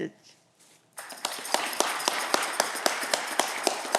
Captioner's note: audience clapping